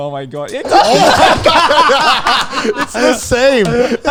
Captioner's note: everyone laughs